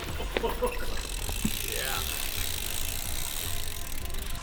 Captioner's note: wheels whizzing